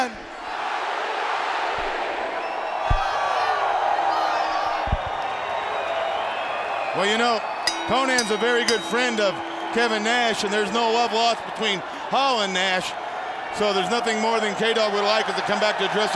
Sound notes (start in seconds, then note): 0.1 crowd cheering; 7.6 bell ringing